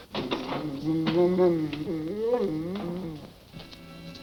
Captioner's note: Devil grumbling; soft suspenseful music